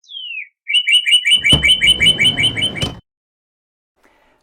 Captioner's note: bird chirping